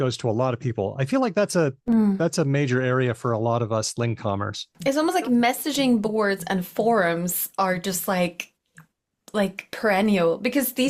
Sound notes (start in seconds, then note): none